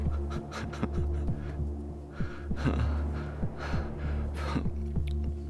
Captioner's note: Weston laughing lightly; tense music